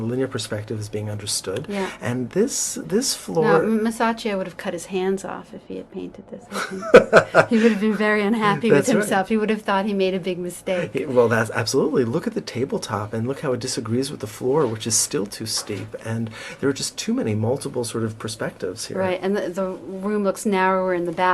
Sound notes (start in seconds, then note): 6.5 laughter